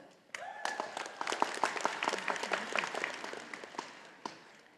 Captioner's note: audience applauding